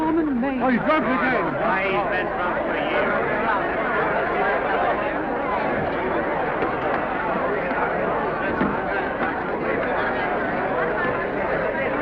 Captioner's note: excited chatter